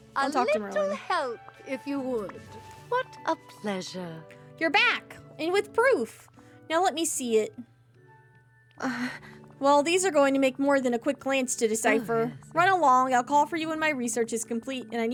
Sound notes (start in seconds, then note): 8.8 concerned Gasp